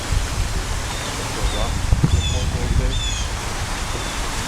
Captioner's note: birds Chirping & People Talking